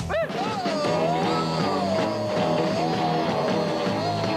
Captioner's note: yelling